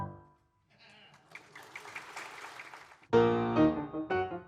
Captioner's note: audience applauding